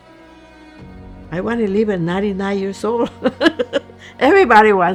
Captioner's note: laughing